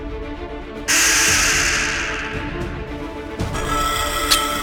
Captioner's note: intense music; beast rattles; stinger clinks